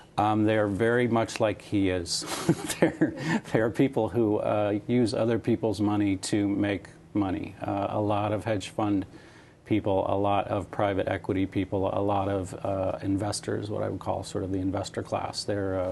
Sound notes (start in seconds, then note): 2.2 laughter